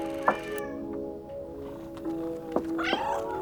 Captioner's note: cat meows